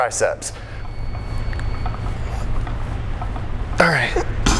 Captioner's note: weights rattle softly